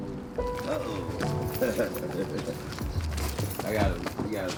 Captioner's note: laughs